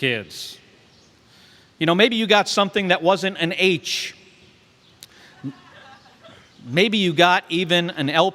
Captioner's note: laughter